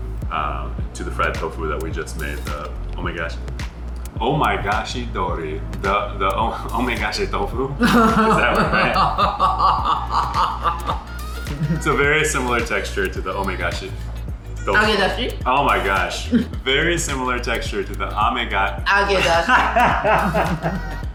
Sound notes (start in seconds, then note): 7.8 large laughter; 7.8 laughter continues